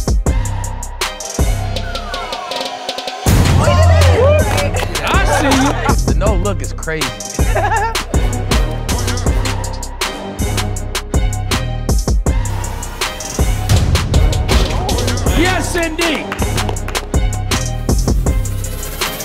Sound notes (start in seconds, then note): 3.4 crowd applauding; 9.9 laughing; 11.3 upbeat music continues